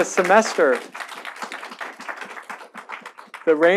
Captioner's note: audience applauding